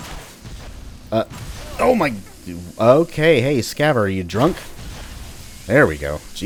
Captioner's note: Scavver grunts in pain